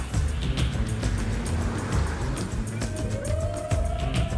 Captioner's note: cheering